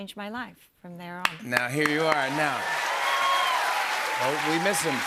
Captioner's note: cheers and applause